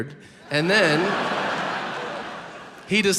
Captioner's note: audience laughs